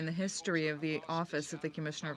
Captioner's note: speaking French